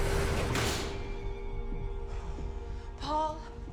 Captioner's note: tense eerie music intensifies; door clicks